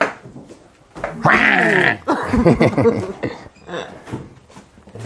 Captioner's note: laugh